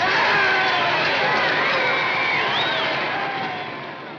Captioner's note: crowd whistling and exclaiming